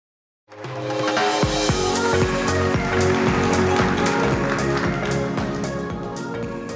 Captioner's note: lively music; audience applauding